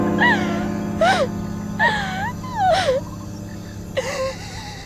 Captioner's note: both girls crying